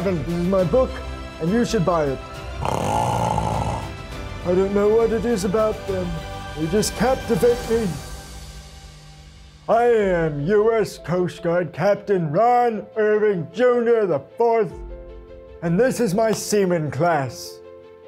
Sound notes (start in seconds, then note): 2.5 snoring